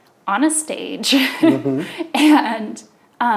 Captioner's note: laughs